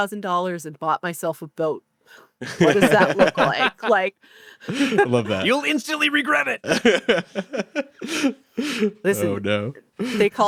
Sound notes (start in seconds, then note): 2.4 laughs; 6.6 laughs